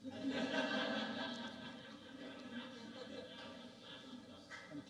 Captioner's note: audience laughing